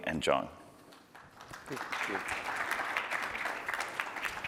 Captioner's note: applause